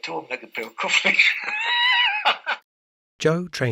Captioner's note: laughter